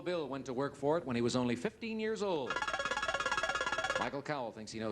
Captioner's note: buzzer beeps